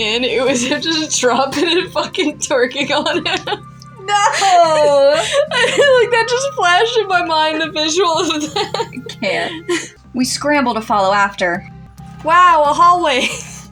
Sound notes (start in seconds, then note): 3.6 laugh; 4.2 laughing; 5.1 giggling; 8.9 laugh; 13.3 snicker